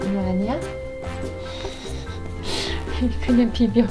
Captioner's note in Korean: 웃음